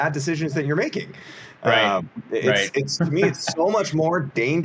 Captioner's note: laughs